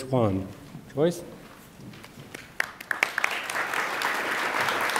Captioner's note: attendees applaud